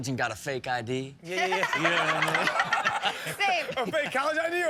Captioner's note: Chanel laughing